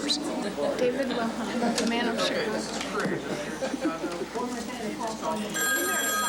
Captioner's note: laughing; phone rings